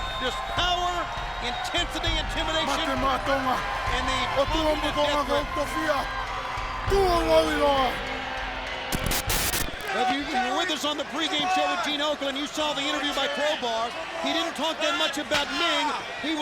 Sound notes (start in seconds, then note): 2.7 Meng speaking in foreign language; 8.8 static crackling